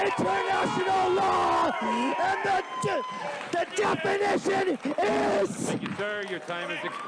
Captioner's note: applause